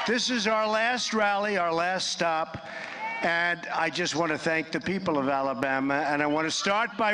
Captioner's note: applause